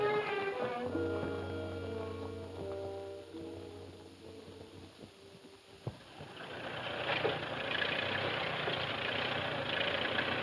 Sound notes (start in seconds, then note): 5.9 tractor rumbling